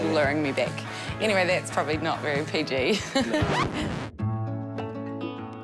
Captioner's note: chuckles; gentle music